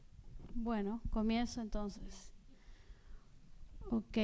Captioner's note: speaking spanish